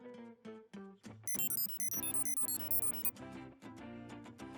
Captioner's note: beeping